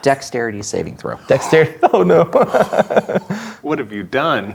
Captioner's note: chuckling